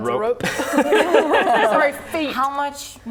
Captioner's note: laughing